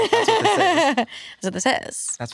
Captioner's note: laughs